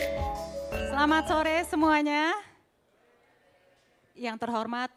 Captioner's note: speaking indonesian